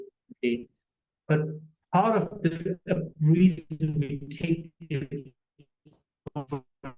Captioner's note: audio distortion